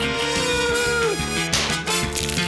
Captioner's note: groans; pop!